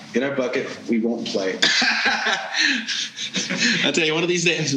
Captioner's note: laughing